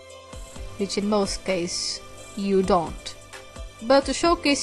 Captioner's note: whispering